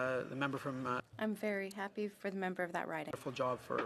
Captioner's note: speaking French